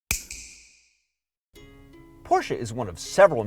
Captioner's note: snap